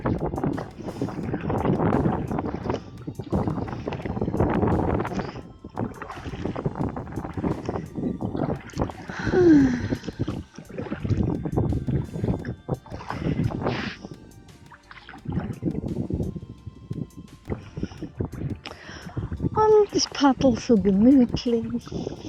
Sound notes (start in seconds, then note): 0.1 paddling, wind & soft music; 8.3 paddling, wind & soft music; 9.0 sighing; 15.1 paddling, wind & soft music